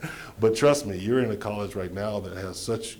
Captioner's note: laughter